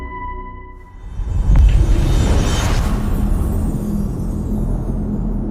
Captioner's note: dramatic sound